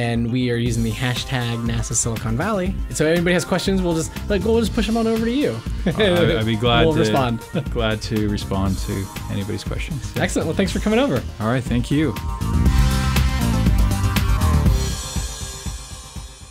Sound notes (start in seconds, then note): 5.8 laughs